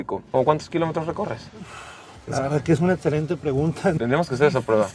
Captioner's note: sighs